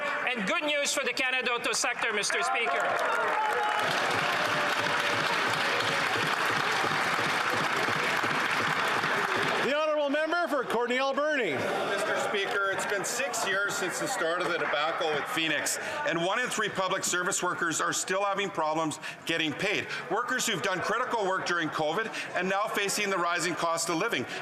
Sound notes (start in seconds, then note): 6.7 some Applause